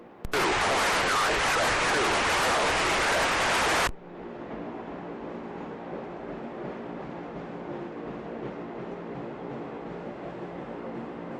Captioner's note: radio static